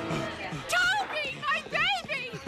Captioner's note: laughing